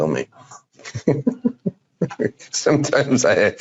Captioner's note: laughing